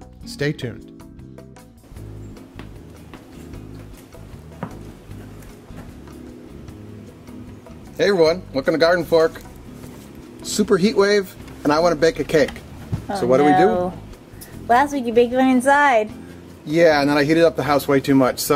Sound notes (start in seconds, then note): 1.4 soft upbeat music; 2.4 footsteps